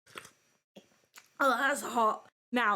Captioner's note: slurps